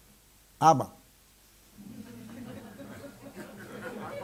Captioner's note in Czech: smích